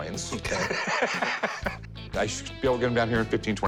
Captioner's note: laughs